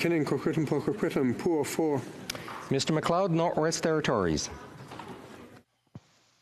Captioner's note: speaking FRENCH